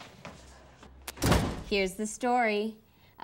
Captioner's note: door bangs